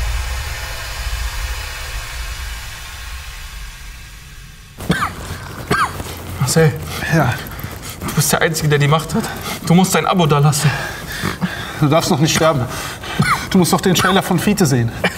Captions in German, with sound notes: *Husten* Marcel! - Ja? Du bist der einzige, der die Macht hat! Du musst dein Abo da lassen! - Du darfst noch nicht sterben. Du musst noch den Trailer von Fiete sehen.